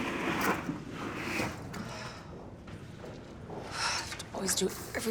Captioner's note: Ashley sighing